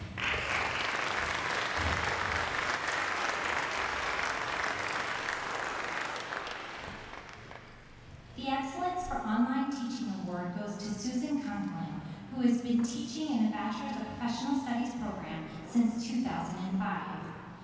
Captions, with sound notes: [Applause] The excellence for online teaching award goes to Susan Conklin, who has been teaching in the Bachelor of Professional Studies program since 2015.